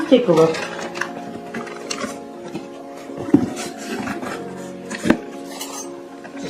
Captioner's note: sound of box and flatware rustling around